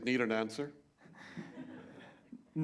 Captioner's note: laughter